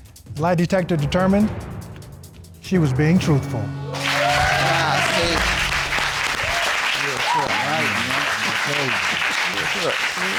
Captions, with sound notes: The lie detector determined she was being truthful. -[audience cheers] -Yeah, see? [indistinct chatter]